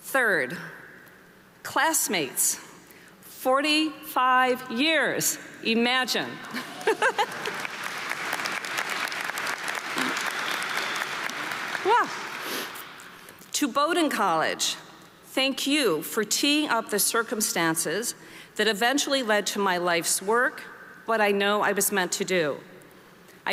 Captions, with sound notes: Third, classmates. 45 years. Imagine! (laughs) (audience applauding) Yeah. To Bowdoin College, thank you for teeing up the circumstances that eventually led to my life's work, what I know I was meant to do.